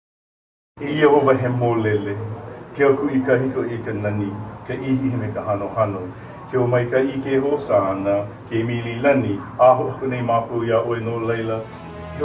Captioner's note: man speaking Hawaiian